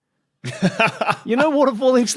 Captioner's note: laughs